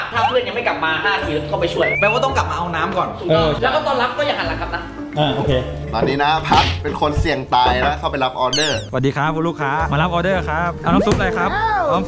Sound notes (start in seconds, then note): 8.9 pat